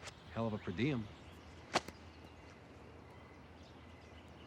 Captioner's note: footstep; bird chirp